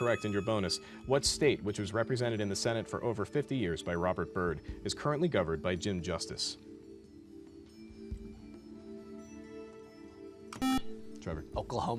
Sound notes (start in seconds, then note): 5.9 soft music; 10.6 beep